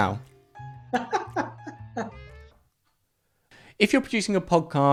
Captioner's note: laughs